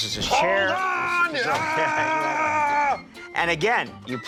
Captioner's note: screams